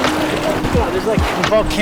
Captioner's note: water splashing